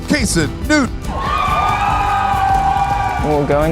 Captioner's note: cheers